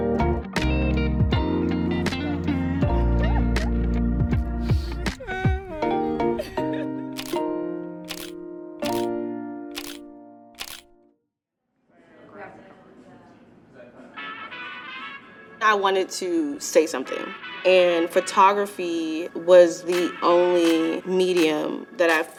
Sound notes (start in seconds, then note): 0.1 gentle music continues; 7.5 camera shutter clicking; 14.5 light rock music